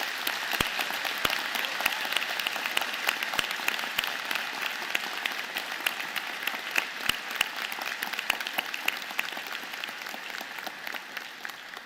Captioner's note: applause